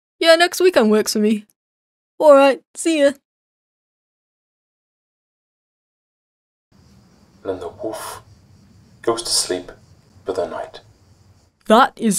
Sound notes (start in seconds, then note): 7.2 documentary voice over